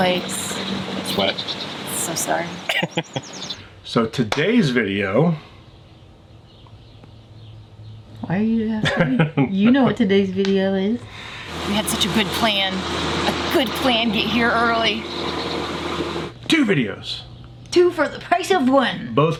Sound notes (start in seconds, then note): 2.6 laughing; 11.4 lawn mower revving